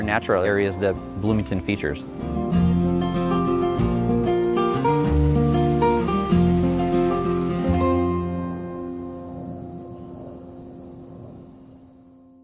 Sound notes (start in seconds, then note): 2.4 bright music; 8.3 insects chirping